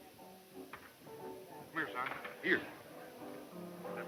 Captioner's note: none